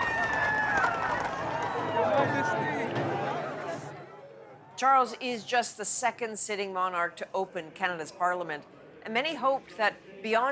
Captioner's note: applause